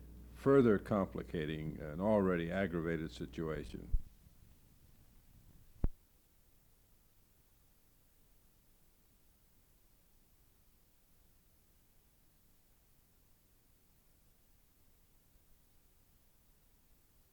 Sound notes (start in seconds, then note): 3.8 silence